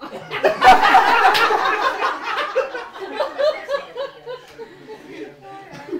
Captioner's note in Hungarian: Nevetés